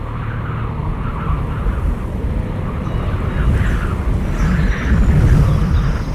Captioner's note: wind blustering continues; ambient music